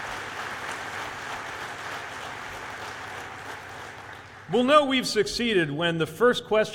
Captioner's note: applause